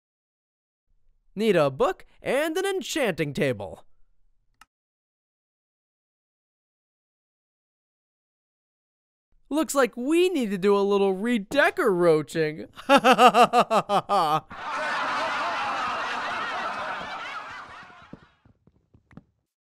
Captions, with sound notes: Need a book and an enchanting table. Looks like we need to do a little Redeco-roaching! (laughs) (group laughs)